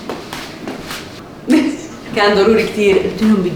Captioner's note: laughs